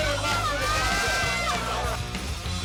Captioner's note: crowd yelling; rock music